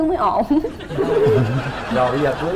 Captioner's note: laughing